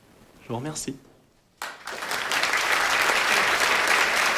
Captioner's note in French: Applaudissements